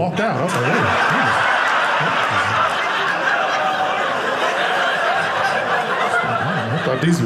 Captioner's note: audience laughing